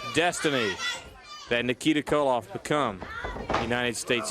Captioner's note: crowd chatter